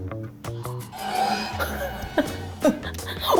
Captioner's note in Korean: 깊은 탄식